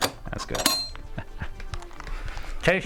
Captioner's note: chuckles